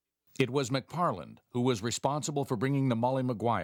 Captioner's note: voiceover